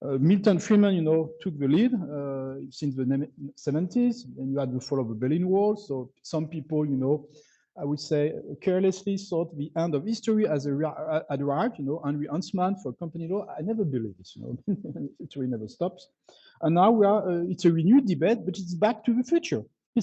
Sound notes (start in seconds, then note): 14.4 laughs